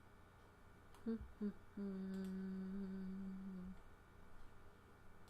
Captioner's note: humming